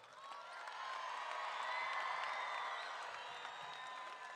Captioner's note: crowd cheering